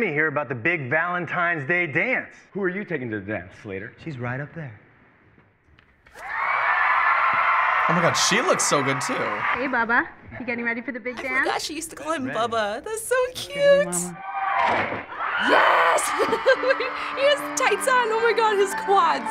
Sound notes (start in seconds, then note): 6.1 audience bursts into cheers; 15.0 audience shrieks; 15.4 laughs